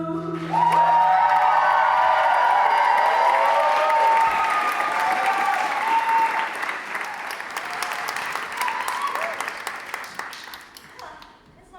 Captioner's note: audience cheering